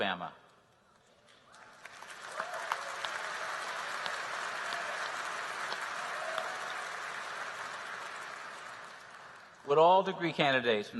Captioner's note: applause